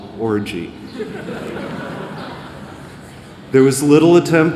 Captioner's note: laughter